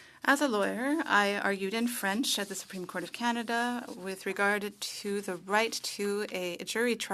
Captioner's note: speaking French